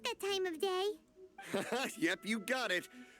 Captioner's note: laughs